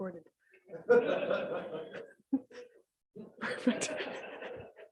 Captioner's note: council members laughing